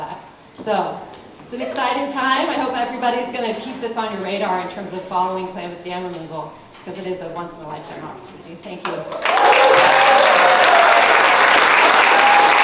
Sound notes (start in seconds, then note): 9.0 applause